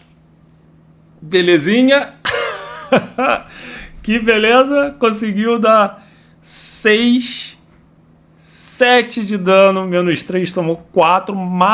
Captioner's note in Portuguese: risadas